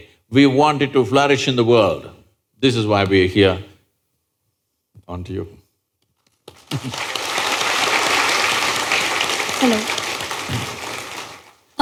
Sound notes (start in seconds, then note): 6.4 applause; 6.6 laughs